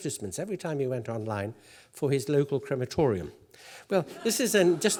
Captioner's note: laugh